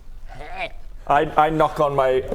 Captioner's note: hrgh